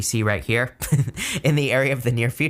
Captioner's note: laughing